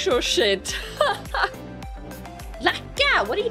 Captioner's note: laughing